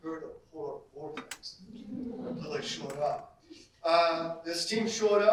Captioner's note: audience laughter